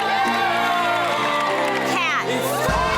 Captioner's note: upbeat music; women cheering